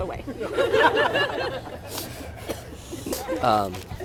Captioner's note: crowd laughing